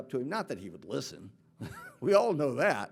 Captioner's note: chuckles